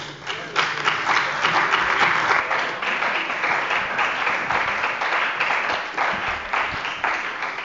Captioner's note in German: Beifall bei der CDU und dem BÜNDNIS 90/DIE GRÜNEN